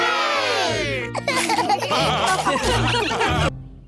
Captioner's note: laughter